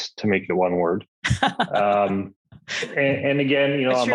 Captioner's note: laughs